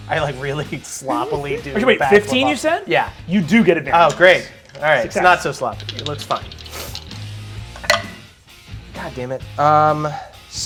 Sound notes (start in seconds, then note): 7.9 dice rolls